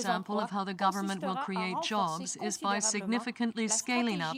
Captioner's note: speaking french